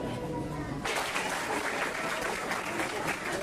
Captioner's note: applause